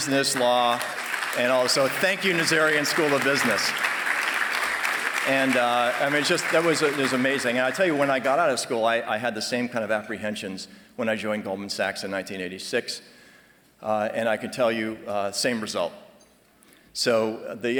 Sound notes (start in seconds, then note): 4.1 applause